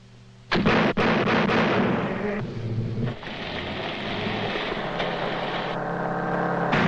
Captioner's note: gun bangs; engine rumbling